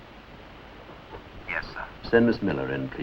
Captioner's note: on phone